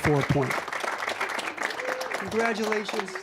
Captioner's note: applause